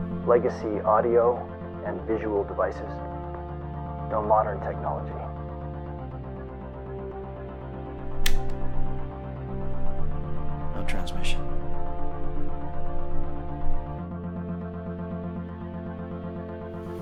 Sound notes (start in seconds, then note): 8.0 button clicks